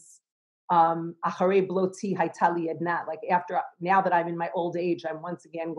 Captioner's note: Hebrew